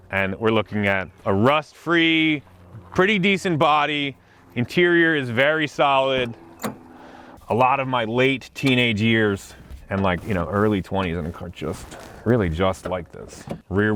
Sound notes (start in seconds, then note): 2.0 helicopter whirring; 6.0 door screaking; 9.0 fabric rustling